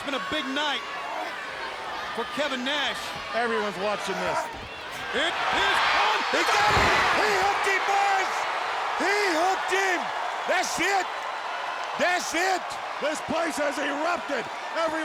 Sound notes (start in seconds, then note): 5.7 audience cheering